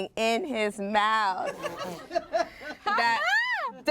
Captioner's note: everyone laughs